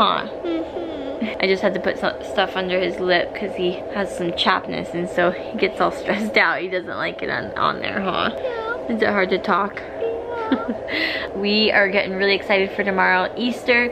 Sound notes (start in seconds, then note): 10.2 laughs